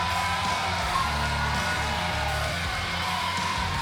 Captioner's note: cheers & applause